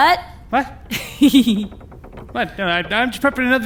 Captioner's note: laughing